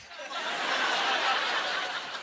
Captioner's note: laughter